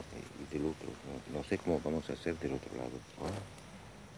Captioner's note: Spanish spoken audio